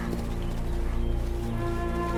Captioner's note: footsteps